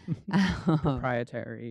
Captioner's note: laughing